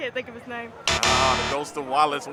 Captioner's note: X buzzes